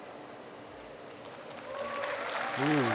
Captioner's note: applause